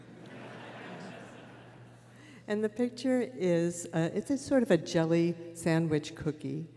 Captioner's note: laughter